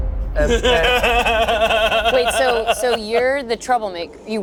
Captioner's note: laughs